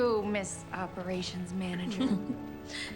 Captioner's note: laughing